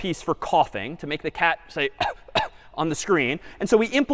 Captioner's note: кашляла